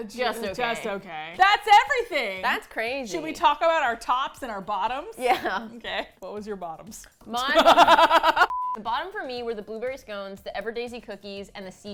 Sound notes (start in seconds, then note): 7.5 laughs; 7.5 both laugh